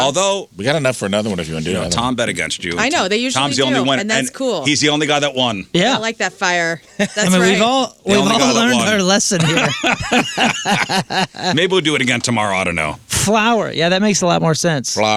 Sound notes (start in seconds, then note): 11.2 laughing